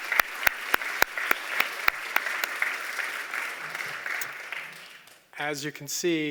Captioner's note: applause